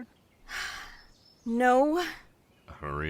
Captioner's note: sighs